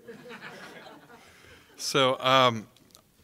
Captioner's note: audience laughing